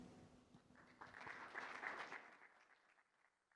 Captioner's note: applause